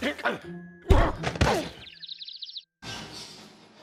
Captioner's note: grunts; birds tweeting; objects clatter